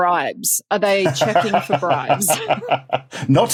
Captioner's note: laughs